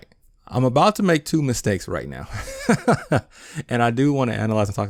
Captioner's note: laughs